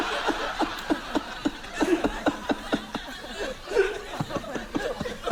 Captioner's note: continues laughing